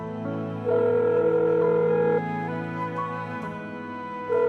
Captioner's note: phone ringing